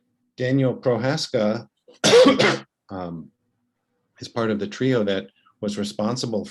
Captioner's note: cough